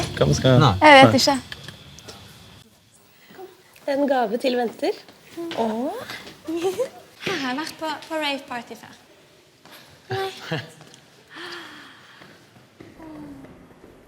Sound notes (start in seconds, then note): 6.4 giggles; 11.3 gasps